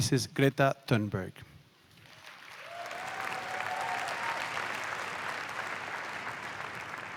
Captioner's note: applause